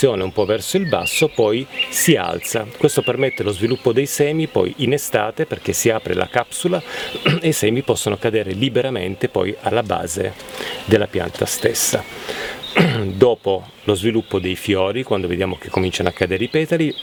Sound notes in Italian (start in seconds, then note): 7.2 schiarire la voce; 12.7 schiarire la voce